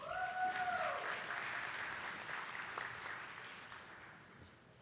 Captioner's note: attendees clapping